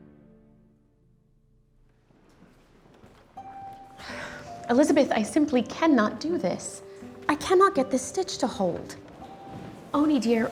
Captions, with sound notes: [Nelly sighs] Elizabeth, I simply cannot do this. I cannot get this stitch to hold. Oney, dear,